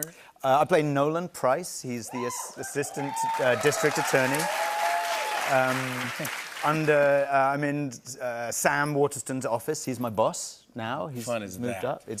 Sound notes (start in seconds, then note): 4.4 cheers and applause